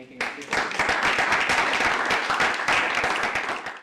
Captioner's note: applause